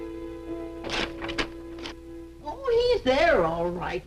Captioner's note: paper ripping